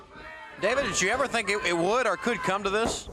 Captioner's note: crowd chatter